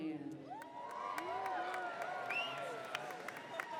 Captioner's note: cheers